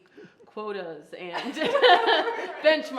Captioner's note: all laughing